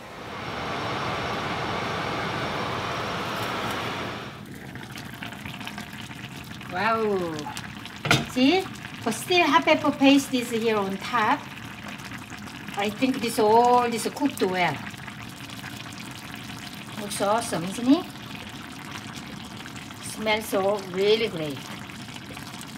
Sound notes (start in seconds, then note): 0.0 fan blows loudly; 4.5 simmering rapidly